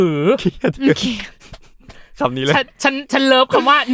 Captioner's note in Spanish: Risas y aplausos